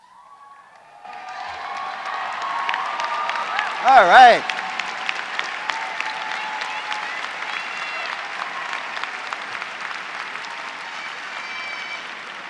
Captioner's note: applause